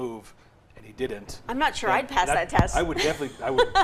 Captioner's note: laughs